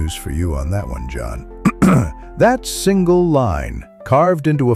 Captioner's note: clears throat